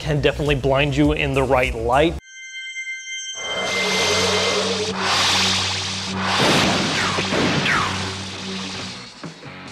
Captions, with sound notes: can definitely blind you in the right light. (high pitch note) (electrical buzzing)